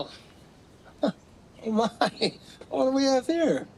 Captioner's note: chuckles